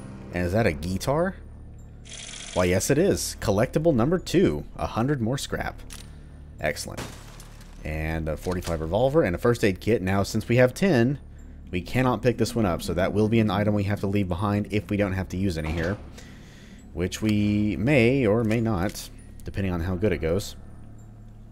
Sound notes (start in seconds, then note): 7.0 smash